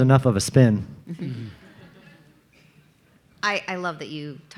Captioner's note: audience laughing